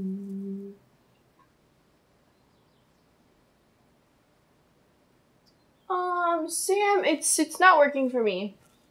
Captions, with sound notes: (birds continue chirping) Sam, it's not working for me.